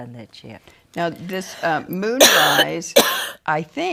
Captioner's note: coughing